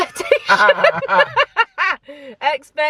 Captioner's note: both laugh